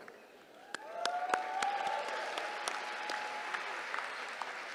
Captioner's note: applause